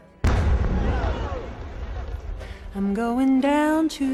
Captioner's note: exploding; crowd gasping